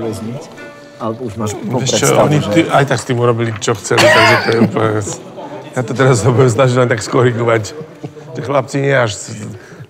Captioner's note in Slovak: smiech